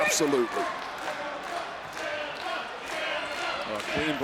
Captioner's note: audience chanting faintly